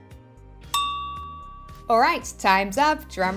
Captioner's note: timer dinging